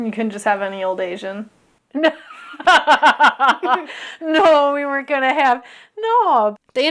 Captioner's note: laughter